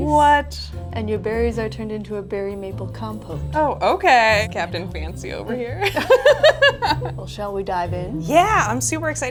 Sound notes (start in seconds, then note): 5.8 both laugh